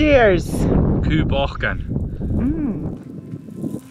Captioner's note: speaks foreign language